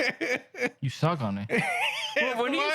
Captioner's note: laughing